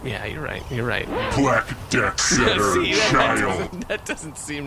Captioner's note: laughing